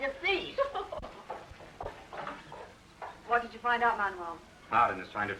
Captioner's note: laughs